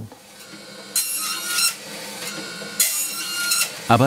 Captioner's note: screeching noises of the saw